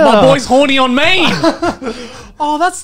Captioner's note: laughing